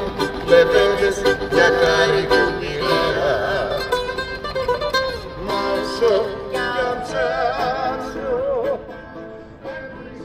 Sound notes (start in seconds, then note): 5.8 people chattering